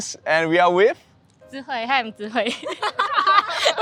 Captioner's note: laughs